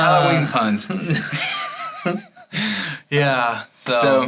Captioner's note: chuckles